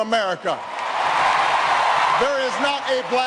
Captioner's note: applause